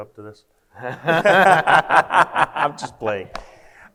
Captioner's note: both laugh